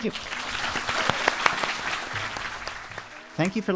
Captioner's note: audience clapping